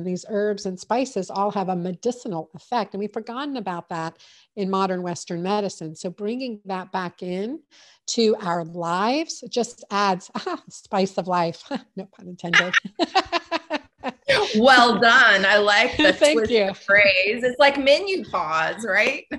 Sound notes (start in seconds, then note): 12.5 chuckles; 15.3 both laugh